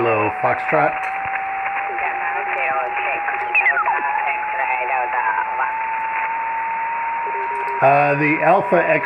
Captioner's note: faint, off frequency